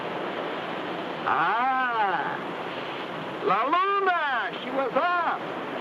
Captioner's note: speaks in foreign language